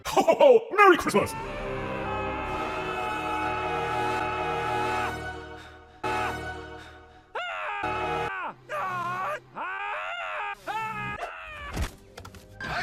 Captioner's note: screaming